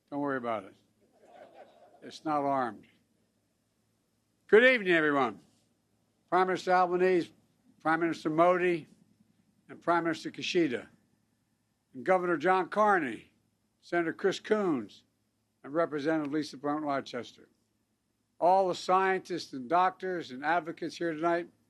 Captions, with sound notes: don’t worry about it. (Laughter.) It’s not armed. Good evening, everyone -- Prime Minister Albanese, Prime Minister Modi, and Prime Minister Kishida; and Governor John Carney, Senator Chris Coons, and Representative Lisa Blunt Rochester; all the scientists and doctors and advocates here tonight.